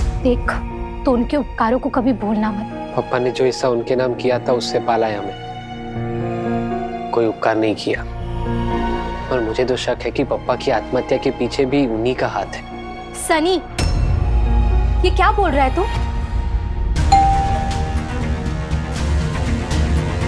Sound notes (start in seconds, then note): 17.1 doorbell ringing; 18.6 dramatic music